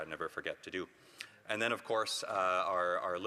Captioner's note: none